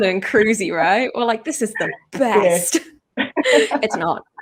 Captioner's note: laughs